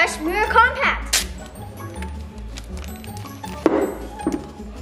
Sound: paper ripping

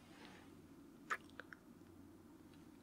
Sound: kiss

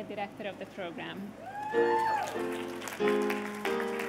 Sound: cheers and applause

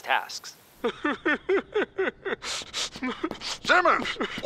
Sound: crying

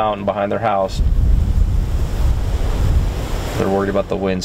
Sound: wind whooshing

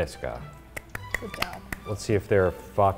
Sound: speaks in foreign language; claps

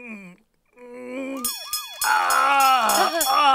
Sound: gulp; bells and sirens

